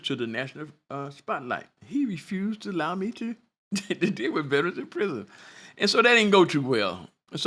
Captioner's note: laughter